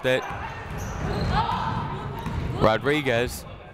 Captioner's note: people shouting in the crowd